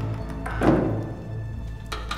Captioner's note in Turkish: Kapı kapanma sesi